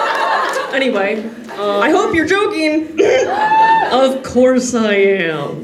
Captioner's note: Yuuri coughs